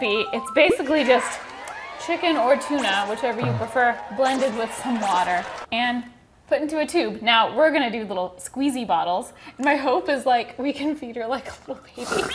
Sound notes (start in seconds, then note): 3.0 crowd cheering sound effect